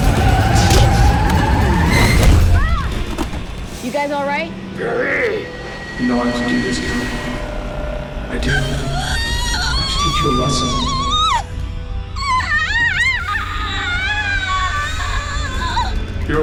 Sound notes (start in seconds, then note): 2.3 gasping; 8.4 screaming